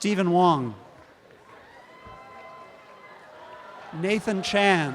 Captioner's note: audience applause